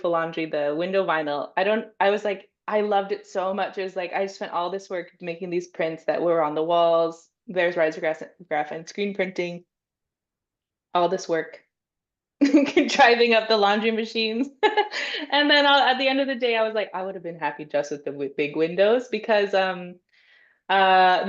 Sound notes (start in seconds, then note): 14.3 laughs